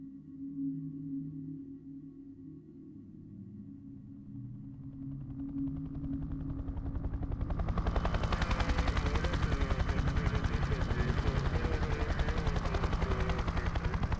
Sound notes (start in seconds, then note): 0.1 somber music; 5.1 helicopter flying